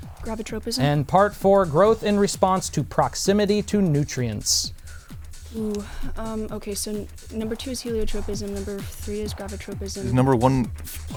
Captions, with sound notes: Part 4, growth in response to proximity to nutrients. [Wispering]